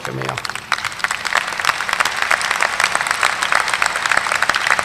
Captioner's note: audience applauding